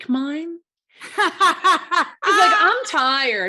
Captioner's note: laughing